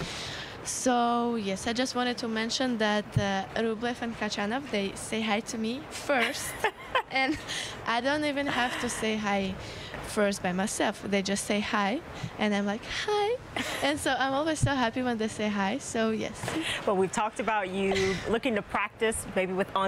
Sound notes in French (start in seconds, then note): 11.0 laughter